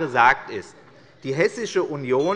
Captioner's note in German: Unruhe - Glockenzeichen des Präsidenten